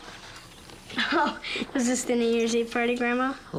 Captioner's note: laughing